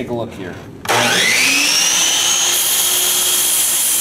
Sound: saw buzzing

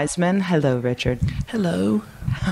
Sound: quietly

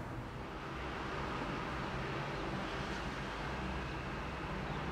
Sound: cars passing

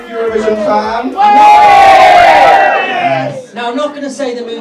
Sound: crowd cheers

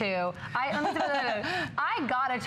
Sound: laughter

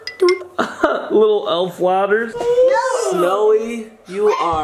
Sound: xylophone chimes; chuckles

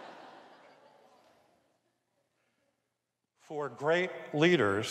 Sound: audience laughs

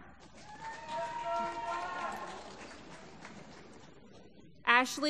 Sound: applause

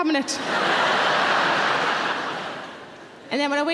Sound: audience laughing

